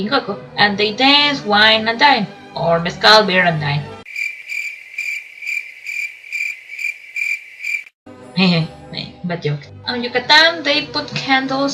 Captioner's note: crickets